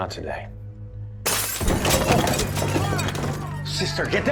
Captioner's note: glass breaks